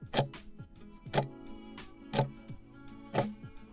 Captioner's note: timer ticking